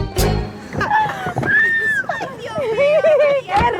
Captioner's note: scream of joy